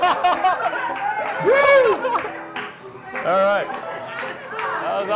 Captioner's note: laughter